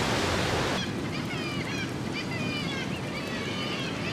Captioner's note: lots of birds chirping